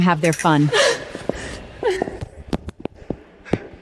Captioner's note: panting